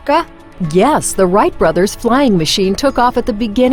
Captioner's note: voiceover